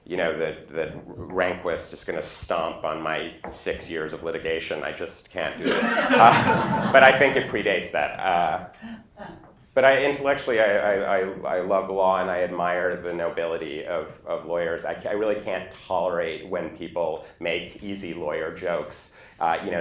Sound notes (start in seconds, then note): 5.6 laughter